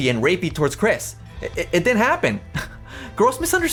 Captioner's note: chuckles